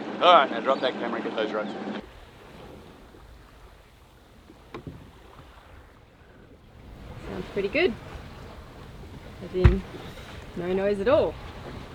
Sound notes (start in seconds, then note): 2.9 water rippling